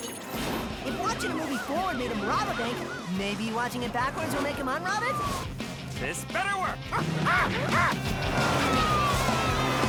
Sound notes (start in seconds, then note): 6.3 clyde screeches